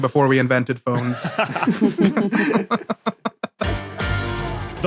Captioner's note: group laughing